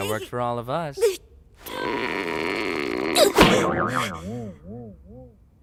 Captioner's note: groans, gasps